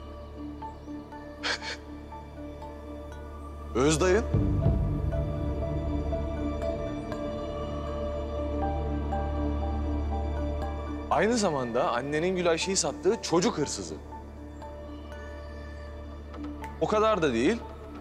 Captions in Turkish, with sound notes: [Gülüyor] Öz dayın. Aynı zamanda annenin… …Gülayşe’yi sattığı çocuk hırsızı. O kadar da değil…